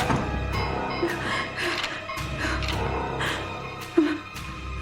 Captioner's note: Barbra huffing